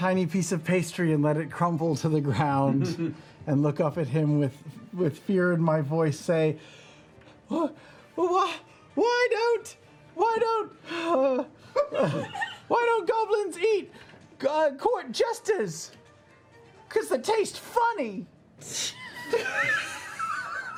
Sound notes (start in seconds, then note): 10.8 sighs